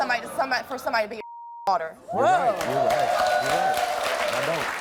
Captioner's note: beep